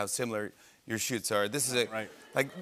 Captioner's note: laughter